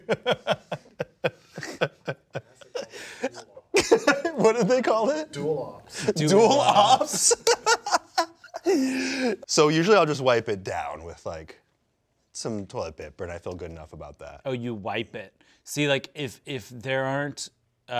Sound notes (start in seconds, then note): 0.0 laughs; 7.5 laughs